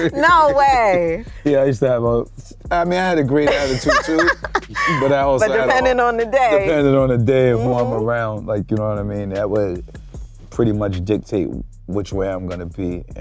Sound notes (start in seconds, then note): 3.4 laughs